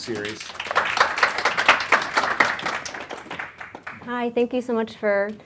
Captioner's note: audience applauds